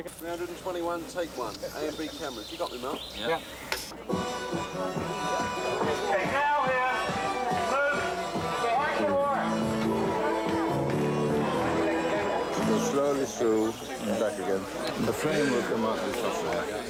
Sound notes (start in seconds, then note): 4.9 man Shouting Directions On Bullhorn